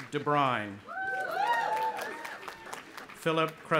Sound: audience applauding and cheering

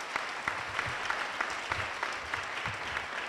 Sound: applause

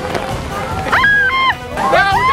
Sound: screaming

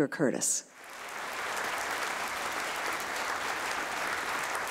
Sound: audience applauding

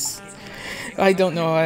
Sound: deep breath

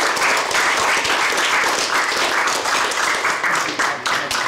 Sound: audience clapping

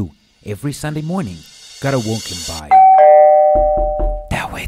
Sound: ding dong

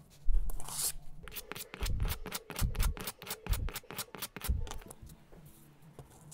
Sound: rubbing

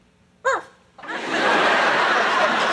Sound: barks; audience laughs

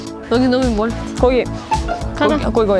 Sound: sniffing

